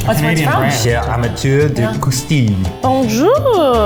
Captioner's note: reading in French